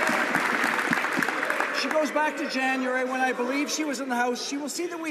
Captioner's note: some Applause